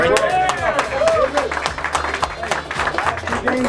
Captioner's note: applause